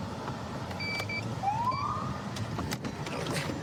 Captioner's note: siren chirps